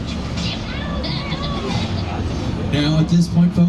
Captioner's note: Minions laughing